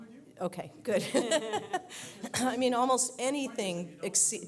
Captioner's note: laugh; cough